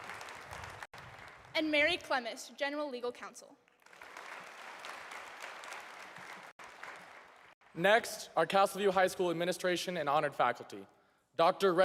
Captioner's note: applause